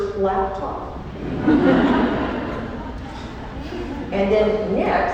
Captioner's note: laughter